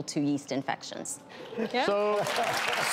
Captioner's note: audience applause